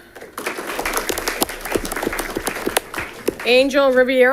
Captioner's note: audience clapping